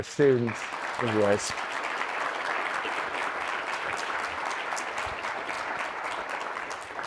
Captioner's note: audience applauding